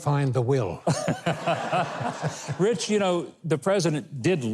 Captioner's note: Mike laughing; audience laughing